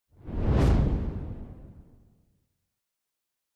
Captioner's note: logo whooshing